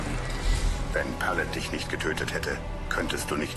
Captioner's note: galley creaking